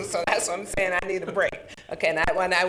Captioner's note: chuckling